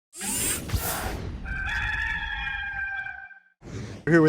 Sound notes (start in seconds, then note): 0.2 digital whooshing; 1.4 rooster crowing